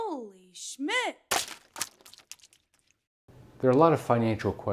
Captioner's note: ink splatters